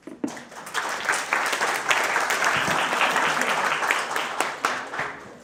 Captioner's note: audience clapping